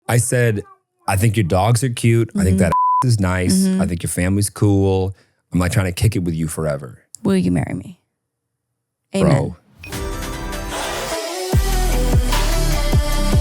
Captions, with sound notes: - I said, I think your dogs are cute. I think that (beep) is nice, I think your family's cool. I'm like trying to kick it with you forever. - Will you marry me? - Bro. (upbeat music)